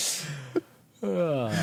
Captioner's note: laughing